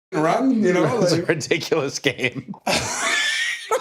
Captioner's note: laugh